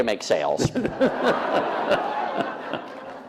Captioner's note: laughter